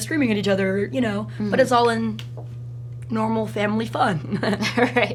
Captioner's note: laughs